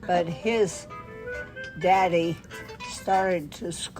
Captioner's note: brief cell phone music ringer plays